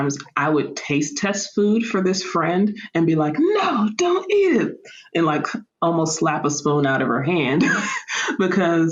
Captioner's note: laughter